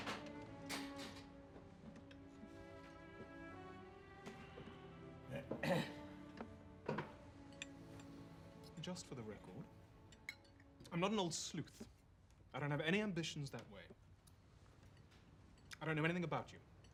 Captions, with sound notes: [Seth clears throat] Just for the record, I'm not a old sleuth. I don't have any ambitions that way. I don't know anything about you--